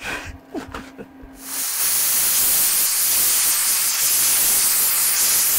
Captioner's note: welder sputtering